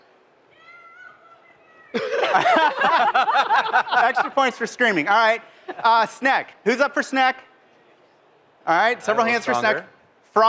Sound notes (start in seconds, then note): 1.9 laughter